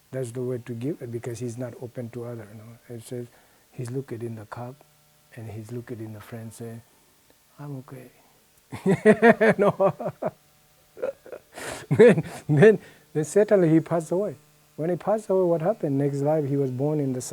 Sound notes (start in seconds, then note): 8.7 laughs heartily